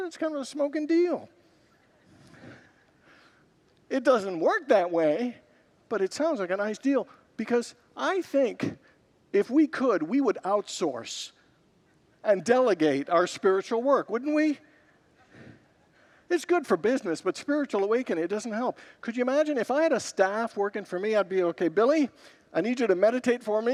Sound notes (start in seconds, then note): 1.7 congregants laugh; 14.7 congregants laugh